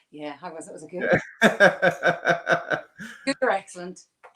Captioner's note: laughs